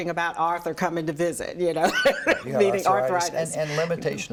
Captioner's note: laughs